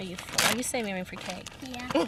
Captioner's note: Sarah's mom laughs